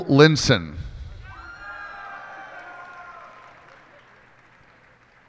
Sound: cheers and applause

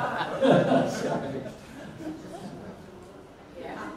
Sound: audience laughs; laughs

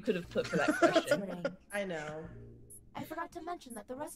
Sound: laugh

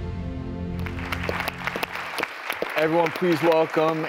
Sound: heartfelt music; applause

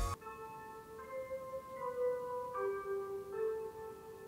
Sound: Tokyo evening chime plays

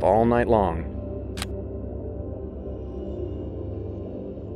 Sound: camera snapping

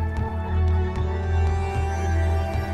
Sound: birds chirping

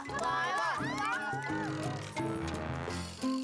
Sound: mixed cheers

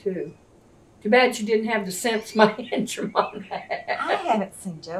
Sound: laughs

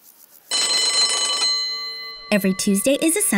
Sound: bell rings

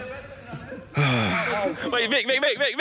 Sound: sighs

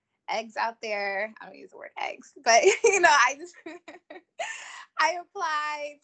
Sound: laughs

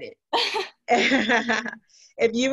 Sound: laughing

